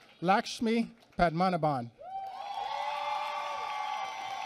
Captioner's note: applause